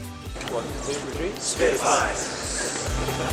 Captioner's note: whispers